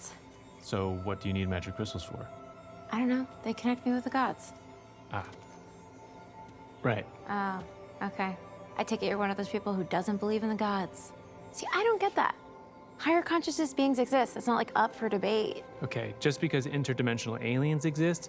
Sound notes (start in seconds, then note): none